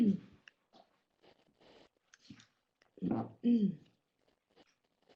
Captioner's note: pause